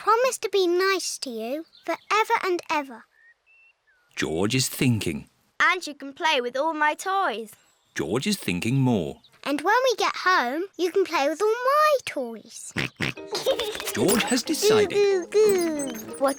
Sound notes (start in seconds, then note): 12.7 snorts and giggles